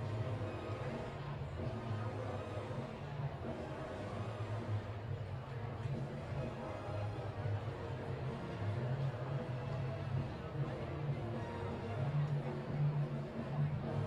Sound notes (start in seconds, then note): none